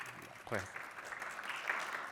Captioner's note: applause